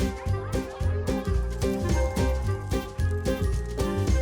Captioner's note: people chatting